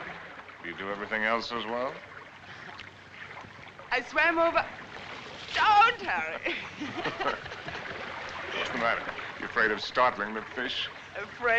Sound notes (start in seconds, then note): 6.0 both Laughing